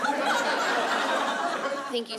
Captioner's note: laughter